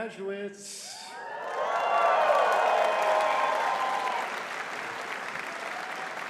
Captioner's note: audience cheering and clapping